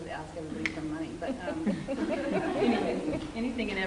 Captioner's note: laughter